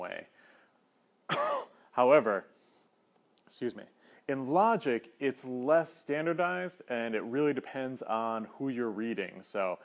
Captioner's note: cough